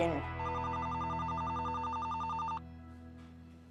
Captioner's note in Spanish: Suena el teléfono